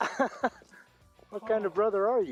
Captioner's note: laughs